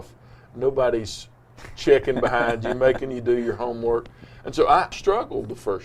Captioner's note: laughs